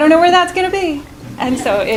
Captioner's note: chuckling